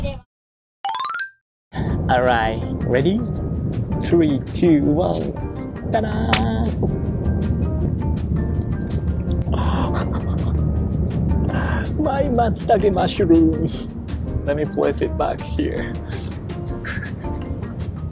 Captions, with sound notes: All right, ready? [UPBEAT MUSIC] 3... 2... 1... Ta-da! [SLIP SOUND EFFECT] Ooo! [GASP] My matsutake mushroom...! Let me place it back here... [CHUCKLES]